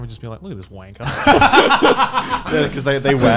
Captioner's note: laughing